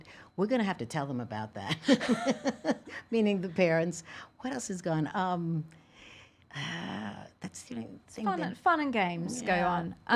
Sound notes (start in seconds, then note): 2.4 laughing